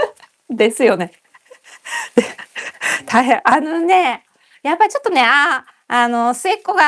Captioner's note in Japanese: 笑い